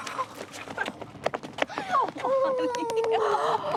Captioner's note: both laughing